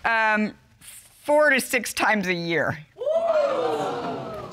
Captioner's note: audience exclaims